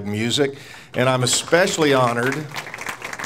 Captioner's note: audience applauds